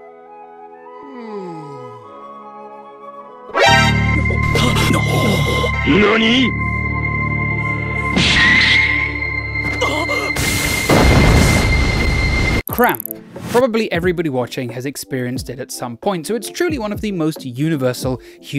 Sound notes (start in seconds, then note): 0.9 yawning; 3.5 dramatic music